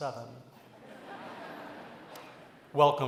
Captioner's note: laughter